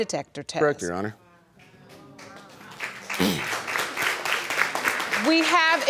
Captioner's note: audience clapping